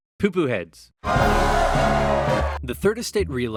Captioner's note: massive applause